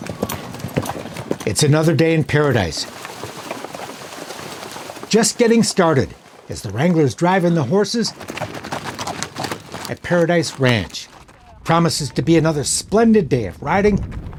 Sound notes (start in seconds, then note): 0.3 hooves clattering; 3.3 water splashing